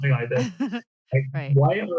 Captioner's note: laughs